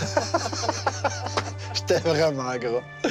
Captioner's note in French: rires